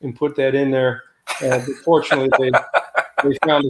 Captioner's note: laughter